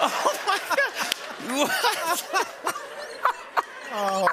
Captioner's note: laughter